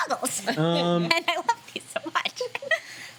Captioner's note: laughing